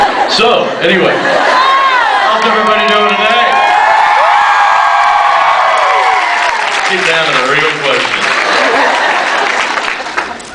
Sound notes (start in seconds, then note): 0.0 scattered laughs; 1.4 cheers; 3.3 cheers; 3.5 cheers, screams; 8.1 applause; 8.4 laughs, applause